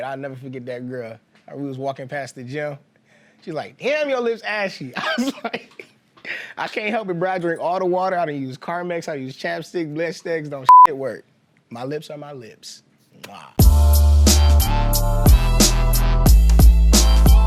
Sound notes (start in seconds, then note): 5.0 laughing; 13.2 mwah; 13.6 energetic hiphop music